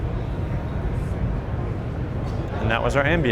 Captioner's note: crowd chattering